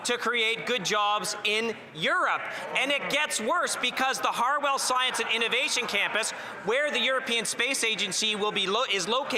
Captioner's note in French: voix de l'interprète